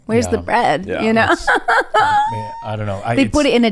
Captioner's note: laughs